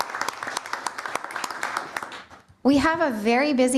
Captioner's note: applause